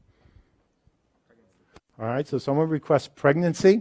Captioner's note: voiceover